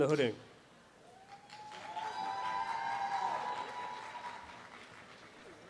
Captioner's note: audience applause